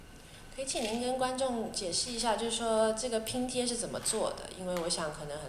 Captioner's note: Mandarin